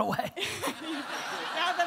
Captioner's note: audience laughter